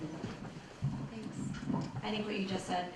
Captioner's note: voiceover